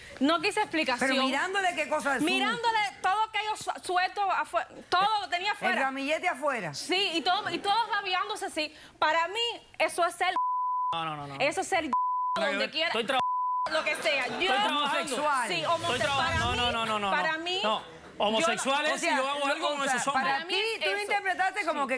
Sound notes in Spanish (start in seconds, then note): 13.2 Bip